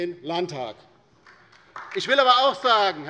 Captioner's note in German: Beifall bei der LINKEN